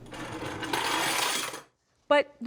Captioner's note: toy car rolling down